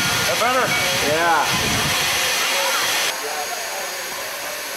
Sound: steam hissing

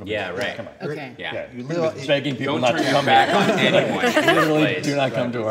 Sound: people talking and laughing

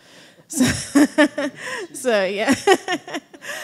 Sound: laughing

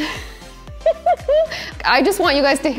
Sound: laughs

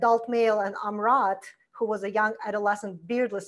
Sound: foreign language

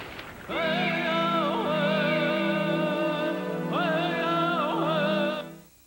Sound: chanting

